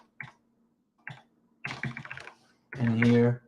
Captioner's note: keyboard clicks